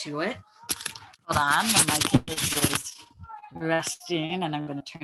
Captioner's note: audio muffling